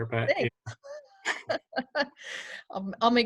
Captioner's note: laughter